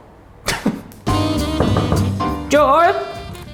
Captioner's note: blows raspberry; chuckles; upbeat brass jazz music; knuckles knocking